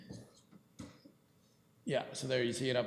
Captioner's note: clerk speaks off mic